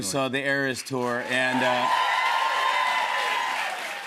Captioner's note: cheers and applause